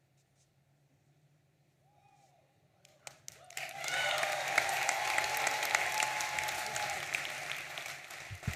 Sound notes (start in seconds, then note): 3.0 audience applauding